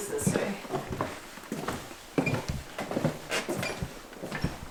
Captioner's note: footsteps